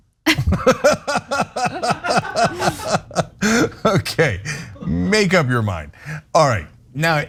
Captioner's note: laugh